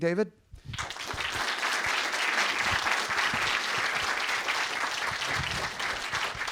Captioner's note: audience applauding